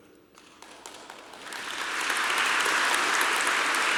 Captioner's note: applause